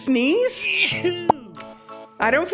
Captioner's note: sneeze